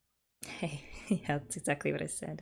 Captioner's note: laughs